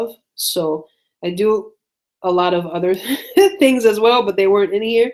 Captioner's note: laughs